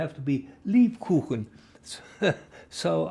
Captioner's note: german; laughing